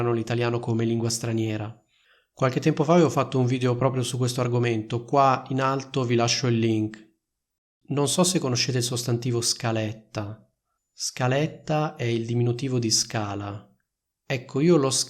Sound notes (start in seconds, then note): 9.5 Italian